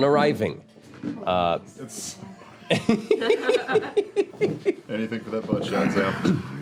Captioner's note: shuffling chairs, laughter